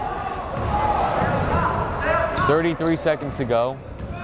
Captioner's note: yelling